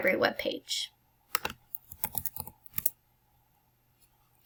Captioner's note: clicks